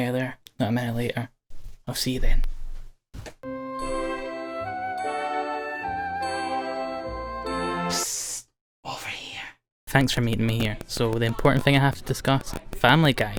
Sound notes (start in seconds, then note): 7.8 psst